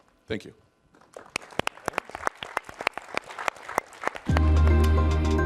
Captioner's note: crowd applauding; mellow dance music